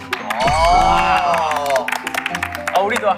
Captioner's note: applaud